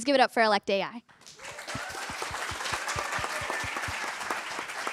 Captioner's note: applause